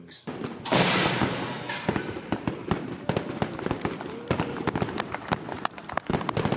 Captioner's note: fireworks exploding; applauding